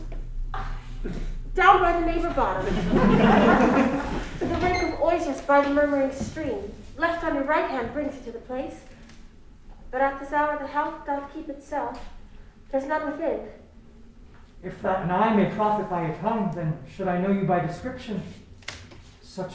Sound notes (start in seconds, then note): 2.3 crowd laughing